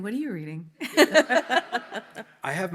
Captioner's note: audience laughs; panelists laugh